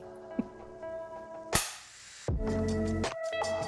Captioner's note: chuckles; clapperboard clacks; upbeat music